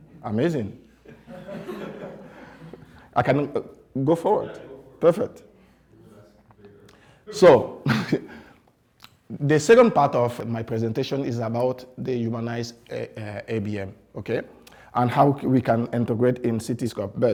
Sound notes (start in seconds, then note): 1.0 class laughs